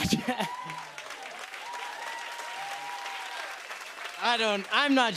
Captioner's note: applause